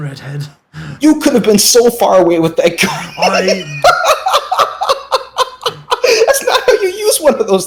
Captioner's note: giggles and laughs